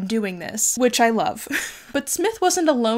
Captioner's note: chuckles